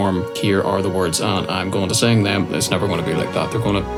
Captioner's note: robotically